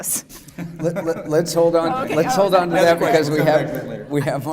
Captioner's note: overlapping chatter